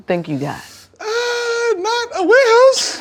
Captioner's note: in a high voice